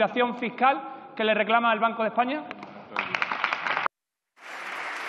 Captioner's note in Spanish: Aplausos